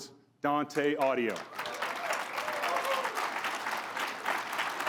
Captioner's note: crowd applauds